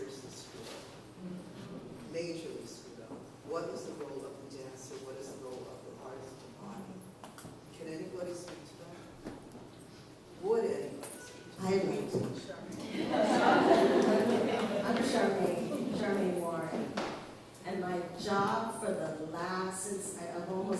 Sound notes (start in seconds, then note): 12.8 laughter